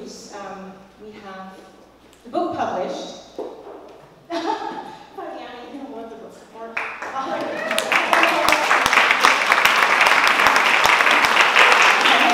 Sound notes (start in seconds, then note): 4.3 laugh; 10.3 applause